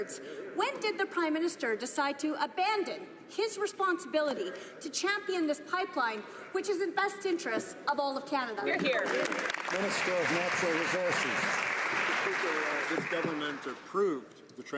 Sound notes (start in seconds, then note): 12.0 some Applause